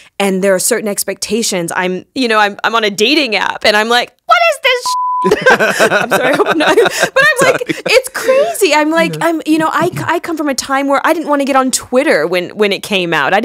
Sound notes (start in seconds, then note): 4.8 beep; 5.2 both laughing